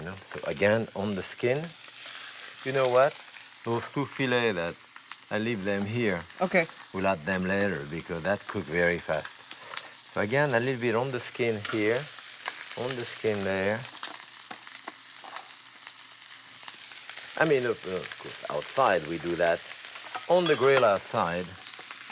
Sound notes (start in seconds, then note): 13.9 sizzling